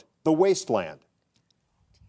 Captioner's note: contestants whispering